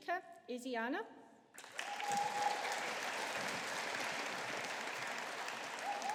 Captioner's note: audience applauding